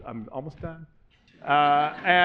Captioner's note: laughter